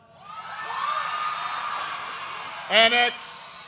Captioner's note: applause